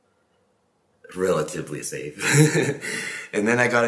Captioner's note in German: lacht